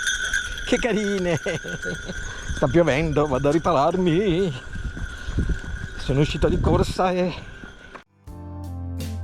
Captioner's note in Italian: risate